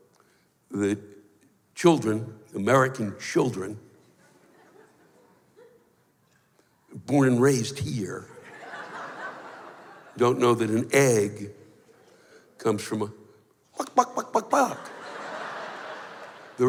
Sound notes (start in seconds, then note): 8.3 laughter; 13.4 clucks like a chicken; 14.1 laughter